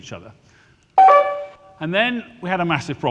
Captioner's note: alert chimes